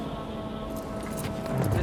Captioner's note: wood clacking